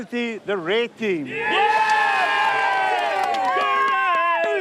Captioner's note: crowd cheers